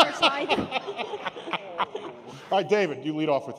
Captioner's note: laughter